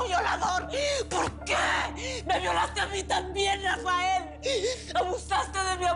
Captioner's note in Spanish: Solloza